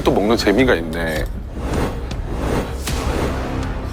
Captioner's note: blows